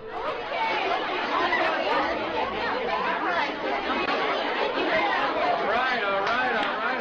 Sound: students chatting

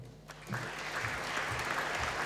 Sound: applause

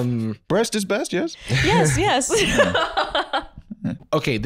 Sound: laughing

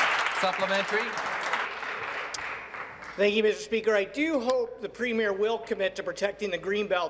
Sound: applause

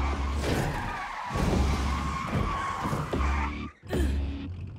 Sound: wheels screeching

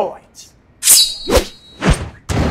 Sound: whoosh

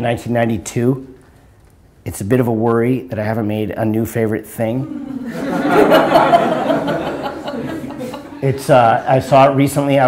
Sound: audience laughter

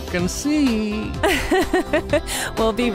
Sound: chuckles

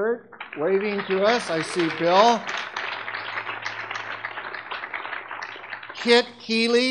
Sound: audience clapping

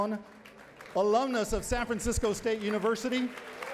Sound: cheering and applause

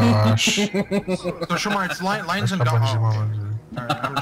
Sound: chuckles; continues chuckling

